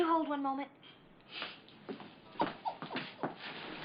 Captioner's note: laughs